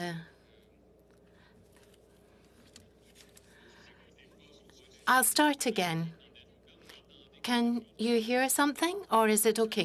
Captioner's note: speaking French